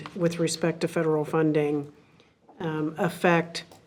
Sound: none

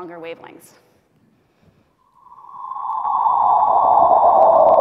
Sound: black hole sound

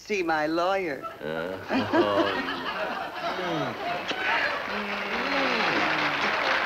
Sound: applause; kissing sounds

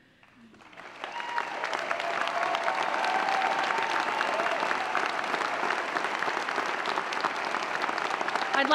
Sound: applause

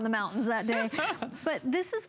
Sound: laughter

